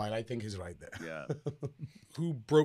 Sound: NTR chuckling

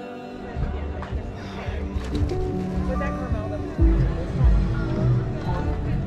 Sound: people chattering; upbeat music

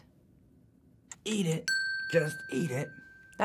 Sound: timer ticking; timer dinging

